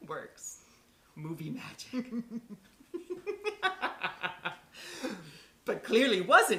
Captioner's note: laughter